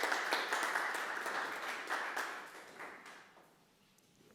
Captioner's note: audience applauding